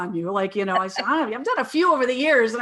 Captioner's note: laughing